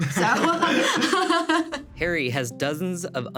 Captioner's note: everyone laughing